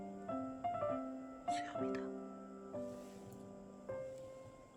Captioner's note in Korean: 소근소근